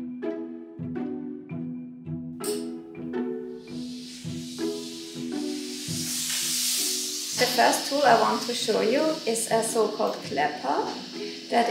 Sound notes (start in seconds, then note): 0.3 inquisitive music; 4.1 iron sizzles